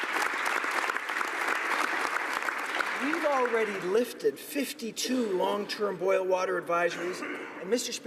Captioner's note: applause